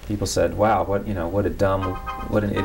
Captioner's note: pause for cell phone ringing